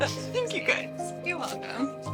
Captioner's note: laughs; sobs